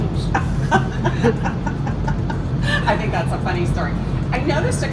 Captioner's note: laughing